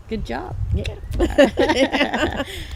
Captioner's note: both laughing